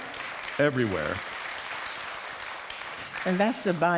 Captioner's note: applause